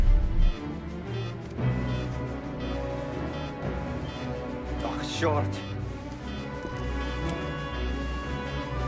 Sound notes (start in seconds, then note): 0.2 alarm; 4.5 speaking russian